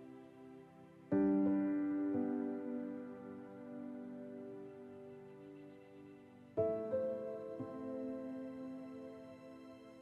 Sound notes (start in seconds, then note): none